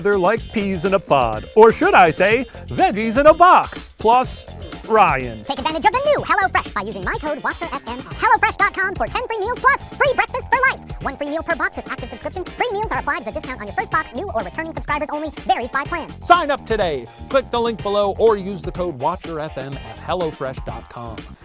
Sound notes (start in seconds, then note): 5.4 voiceover